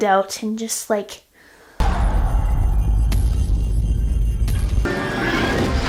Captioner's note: magic yelling